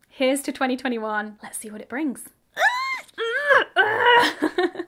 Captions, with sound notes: Here's to 2021, let's see what it brings. (screaming) (laughing)